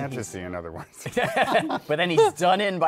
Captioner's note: laughter